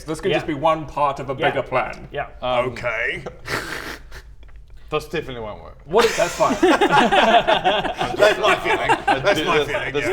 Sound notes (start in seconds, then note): 6.0 doomed giggles